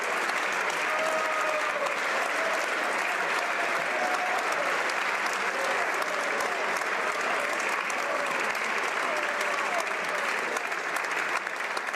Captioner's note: applause